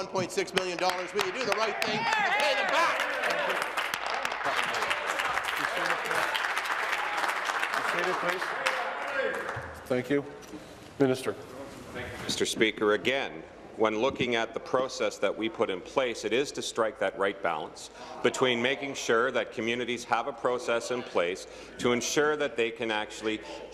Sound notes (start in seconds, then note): 6.8 applause